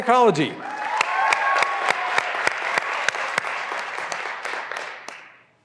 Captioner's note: graduands cheering and applauding